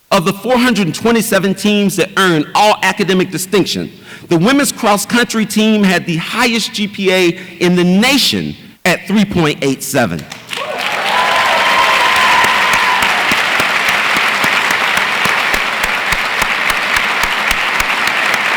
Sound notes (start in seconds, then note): 10.3 audience applauds and cheers